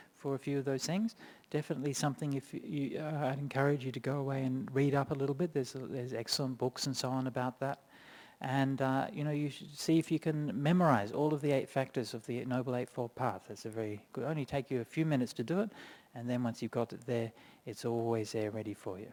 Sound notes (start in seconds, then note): none